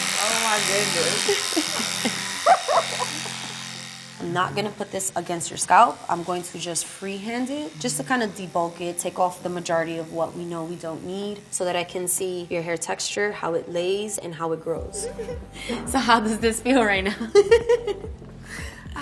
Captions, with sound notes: - Oh my goodness. [laughs] - I'm not gonna put this against your scalp, I'm going to just free hand it. Just to kind of debulk it, take off the majority of what we know we don't need, so that I can see your hair texture, how it lays and how it grows. So how does this feel right now? [laughs]